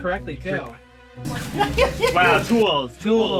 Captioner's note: laughs